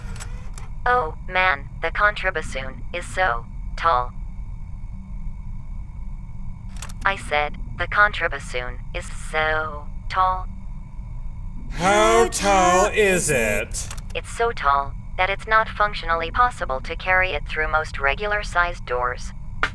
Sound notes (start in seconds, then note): 11.7 sigh